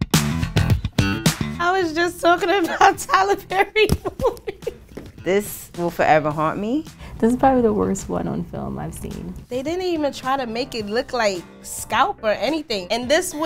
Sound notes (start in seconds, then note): 2.4 laughs